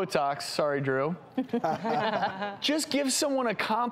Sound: laughing

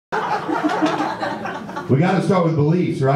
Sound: audience laughs

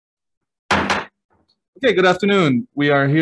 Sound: gavel slams

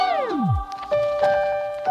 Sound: record crackles

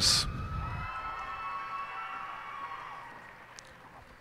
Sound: cheers and applause

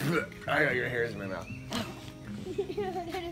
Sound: spitting; giggling

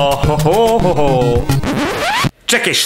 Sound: vinyl scratch

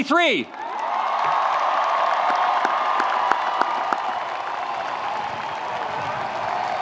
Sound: audience cheering; audience applauding

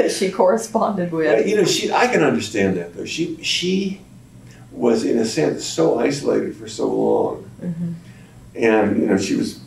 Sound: laughs

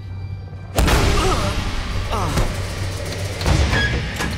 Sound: grunting

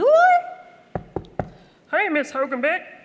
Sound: knock knock knock

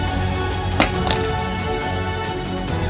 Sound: telephone fall into place sound

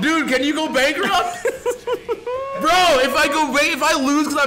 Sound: laugh

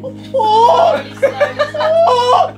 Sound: Harry screaming; group laughing

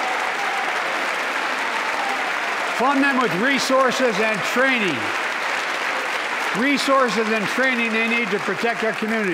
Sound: applause

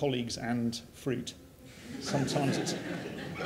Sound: laughter

